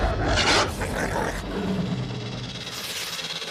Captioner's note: growling